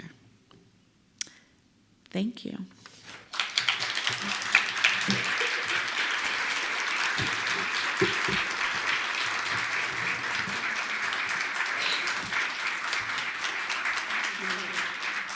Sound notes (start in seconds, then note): 3.1 applause